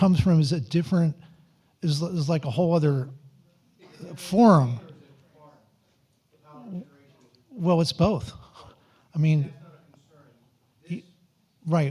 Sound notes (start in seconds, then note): 5.3 audience speaking faintly